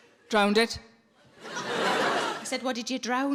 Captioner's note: audience laughs